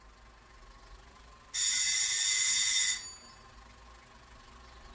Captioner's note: doorbell rings